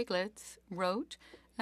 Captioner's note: speaking French